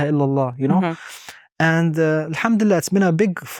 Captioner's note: speaking Arabic; speaking Arabic